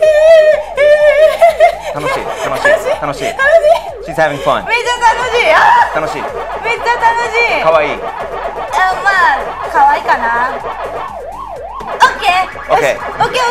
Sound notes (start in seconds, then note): 0.2 speaking in foreign language